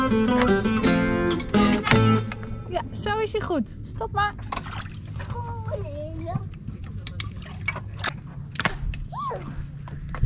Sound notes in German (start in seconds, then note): 2.2 undeutliches Gespräch